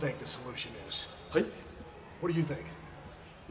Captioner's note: Tajiri speaks Japanese